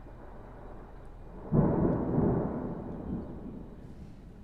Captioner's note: more thunder